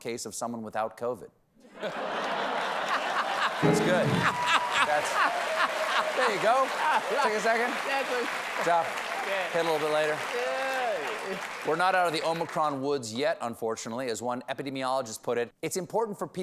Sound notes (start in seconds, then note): 5.1 cheers and applause